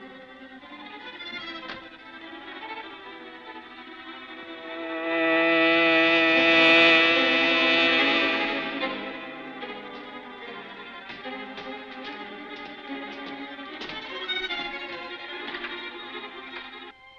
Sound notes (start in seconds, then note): 5.5 buzzing; 10.1 gentle music